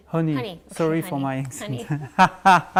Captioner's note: laughing